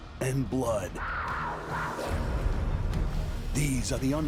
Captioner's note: animals growling